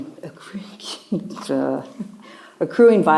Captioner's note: chuckles